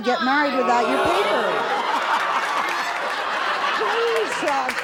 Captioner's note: audience laughing